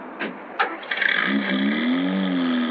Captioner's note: engine starts